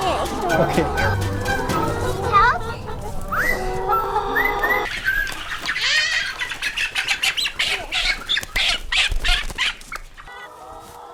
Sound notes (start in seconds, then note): 5.6 hen cackling